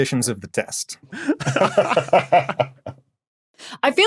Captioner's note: laugh